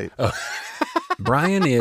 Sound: both laughing

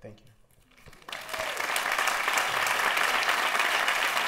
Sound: applause

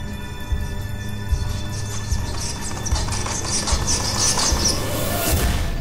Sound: strange scratching sounds

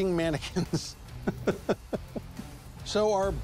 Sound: laughs

